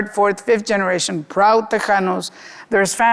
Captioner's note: speaking Spanish